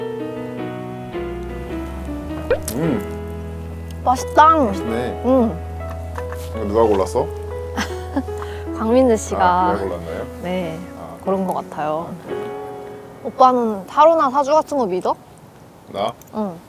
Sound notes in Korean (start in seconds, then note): 1.2 호로록